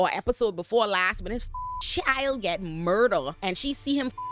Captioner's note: beep